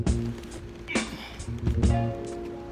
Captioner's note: grunts